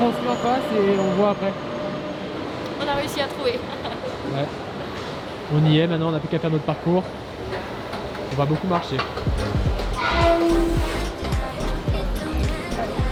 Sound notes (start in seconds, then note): 4.2 laughs; 10.1 escalator creaking